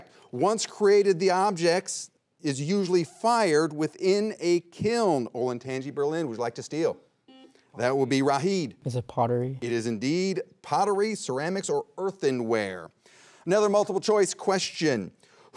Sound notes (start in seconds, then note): 7.7 buzzer beeps once